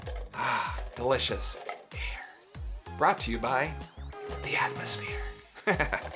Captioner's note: laughing